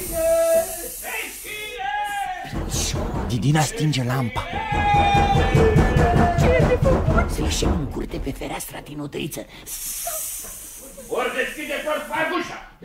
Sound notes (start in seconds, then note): 2.5 everyone is banging hard on the door